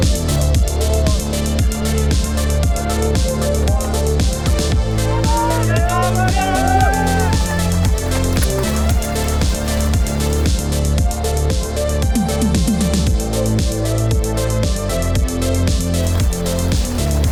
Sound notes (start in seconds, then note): 5.5 crowd cheering; 10.9 upbeat techno music